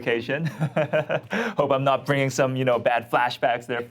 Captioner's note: laughs